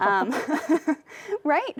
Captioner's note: laughs